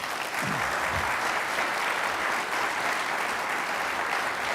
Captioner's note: applause